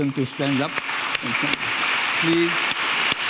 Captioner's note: audience applauding